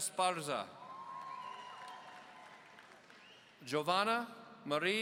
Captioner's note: audience cheering